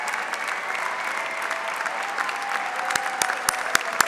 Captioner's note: audience member whistles